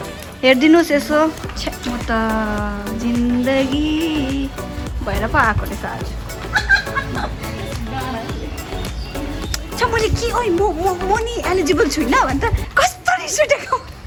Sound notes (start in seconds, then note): 6.4 laughter